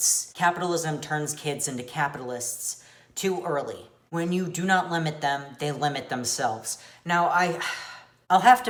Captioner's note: sigh